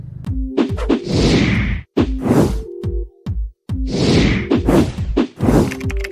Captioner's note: upbeat music; whooshing; keyboard keys tapping